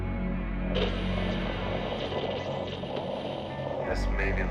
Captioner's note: static buzzing